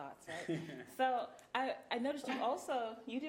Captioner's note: chuckling